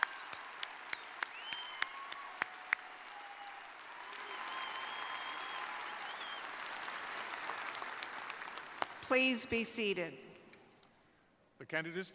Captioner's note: applause